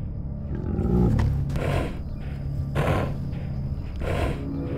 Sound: angry breathing

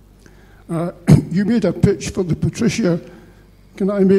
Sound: cough

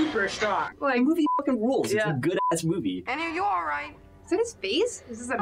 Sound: beep

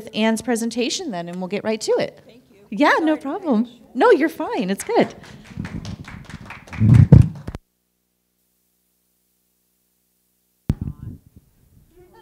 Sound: applause

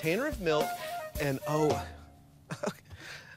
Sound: chuckles

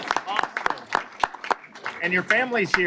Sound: applause

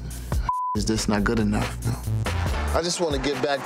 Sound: beep

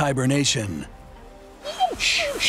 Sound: dog whinging

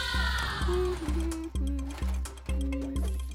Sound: humming

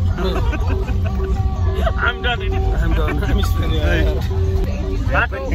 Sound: laughter

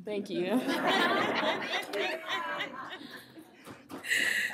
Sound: laughter

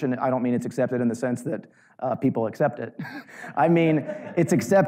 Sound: audience lightly laughing

